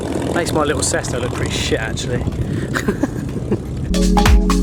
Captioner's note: laughs; upbeat music